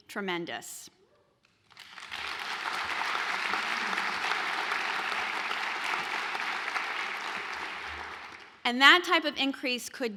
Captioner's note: applause